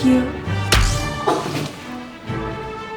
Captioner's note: whack